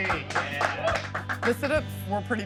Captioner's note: applauding and cheering